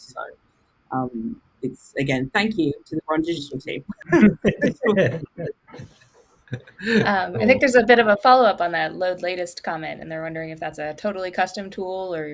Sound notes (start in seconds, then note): 3.8 laughs